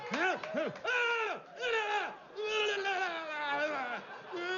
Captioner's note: gritando incoherentemente